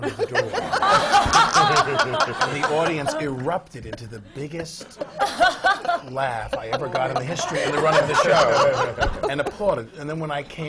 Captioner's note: laughter